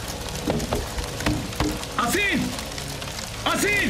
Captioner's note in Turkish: Cama vurma sesi